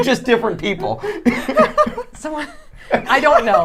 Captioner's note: laughing